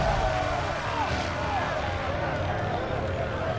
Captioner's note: wailing